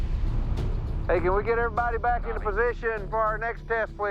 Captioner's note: over walkie